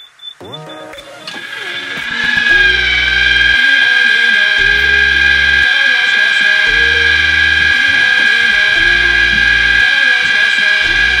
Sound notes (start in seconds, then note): 2.6 loud humming